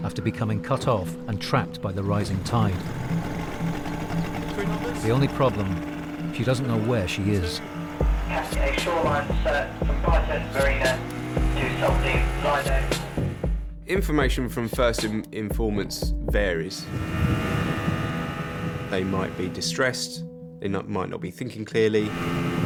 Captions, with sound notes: after becoming cut off and trapped by the rising tide. (motor whirring) The only problem, she doesn't know where she is. - [Voice On Radio] Cast a shoreline search from Brighton Marina to Saltdean Lido. - Information from first informants varies. They might be distressed. They might not be thinking clearly.